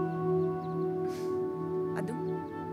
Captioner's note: Sighs